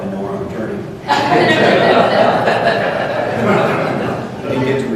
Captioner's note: laughter